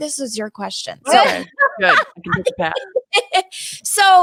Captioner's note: laughs